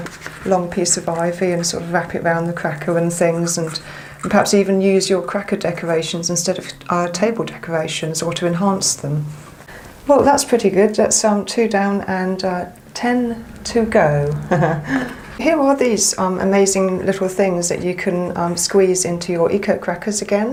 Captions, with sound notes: You can be quite artisitic with a long piece of ivy and wrap around the cracker. Perhaps eve use your cracker instead of table decorations or to enhance them. Well, that's pretty good. That's two down and ten to go. [Laughter] Here are these amazing little thing that you can squeeze into your eco crackers again.